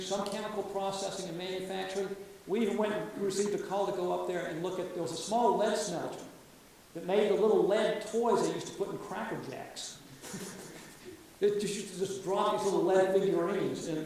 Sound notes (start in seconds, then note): 10.2 audience laughs